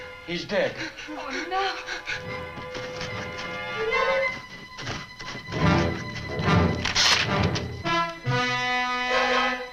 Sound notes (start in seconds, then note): 2.6 muffled scratching